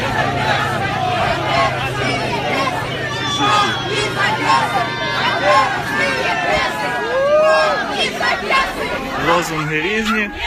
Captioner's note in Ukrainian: кричать